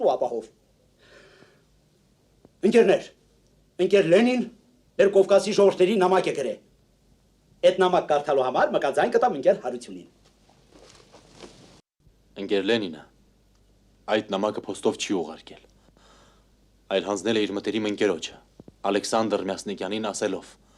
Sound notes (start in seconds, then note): 1.0 whew; 10.1 rustling